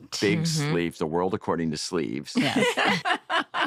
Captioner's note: laughter